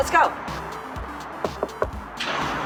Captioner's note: knock, knock